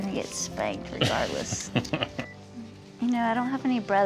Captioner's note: chuckles